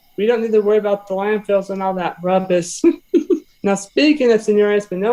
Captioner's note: laughs